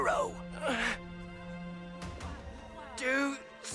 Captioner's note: Brax groans